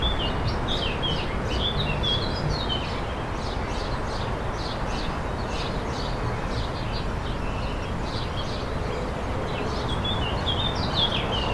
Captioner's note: birds tweeting continues